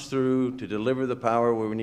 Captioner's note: none